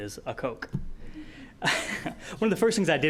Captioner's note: laughing